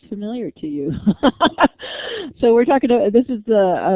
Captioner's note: laughter